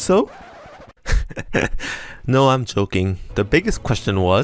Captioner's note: laughter